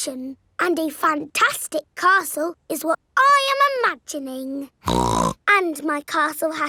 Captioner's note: snorts